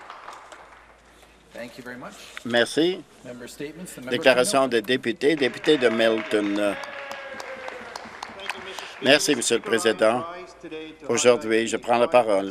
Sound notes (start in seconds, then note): 1.3 some Applause; 9.7 cheers and Applause